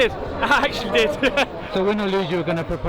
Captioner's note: laughs